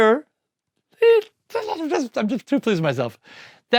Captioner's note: excited wordless vocalization